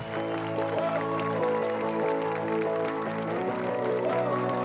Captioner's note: applause and cheers